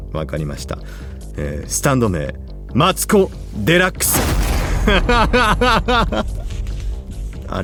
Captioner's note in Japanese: 笑い